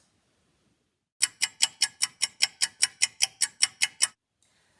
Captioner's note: clock ticking